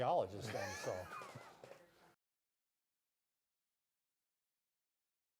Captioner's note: laughing